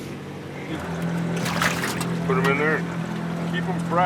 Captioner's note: fish splashing